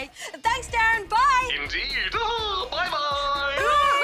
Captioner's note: laughs